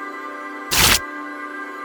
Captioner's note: rustling sound